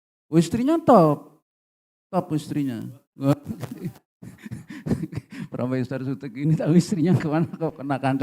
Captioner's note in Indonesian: tertawa